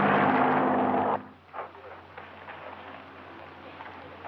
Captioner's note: people chattering